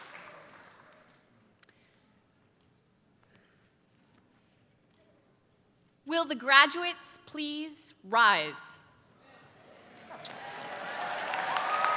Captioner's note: applause